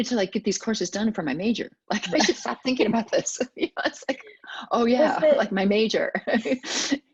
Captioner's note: laughs